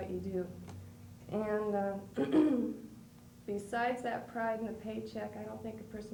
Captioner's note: clears throat